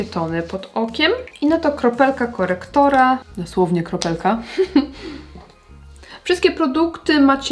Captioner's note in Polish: śmiech